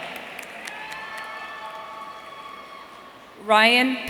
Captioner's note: audience cheering